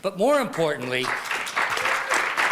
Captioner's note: applause